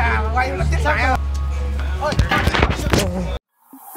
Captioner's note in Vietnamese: camera rớt